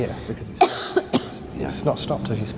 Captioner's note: coughing